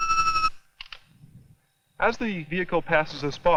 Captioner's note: camera shutter clicks